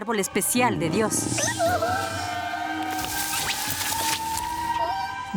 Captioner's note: hiss